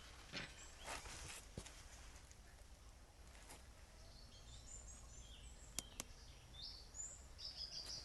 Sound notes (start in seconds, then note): 3.7 birds singing